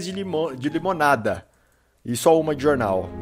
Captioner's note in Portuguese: Silêncio